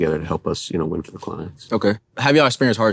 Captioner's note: none